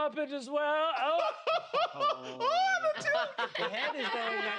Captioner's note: laughs